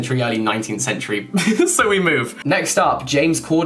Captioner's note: giggling